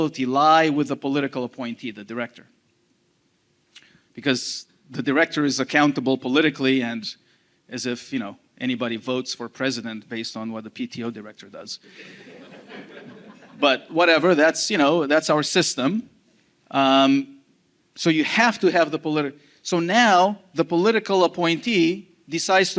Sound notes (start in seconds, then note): 11.9 audience laughing